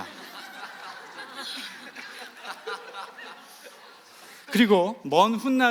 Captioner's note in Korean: 웃음